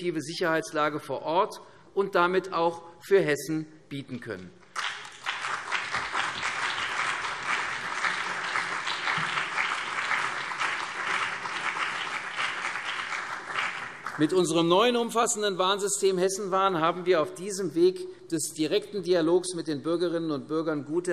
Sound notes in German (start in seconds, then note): 4.7 Beifall CDU und BÜNDNIS 90/DIE GRÜNEN